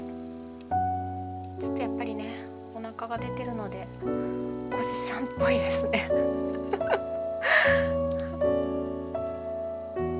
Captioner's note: laughs